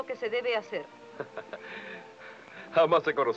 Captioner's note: laughs